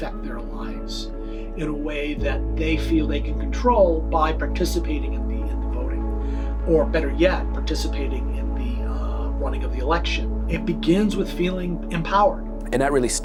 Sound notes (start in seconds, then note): none